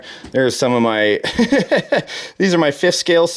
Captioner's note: laughing